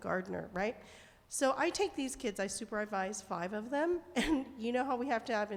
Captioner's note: chuckles